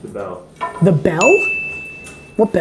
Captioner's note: bell dings